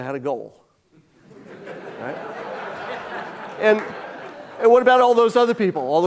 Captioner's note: audience laughing